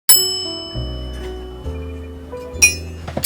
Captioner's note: bell dings